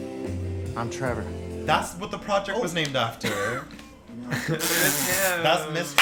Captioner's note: all the laugh